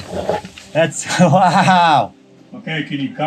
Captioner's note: laughing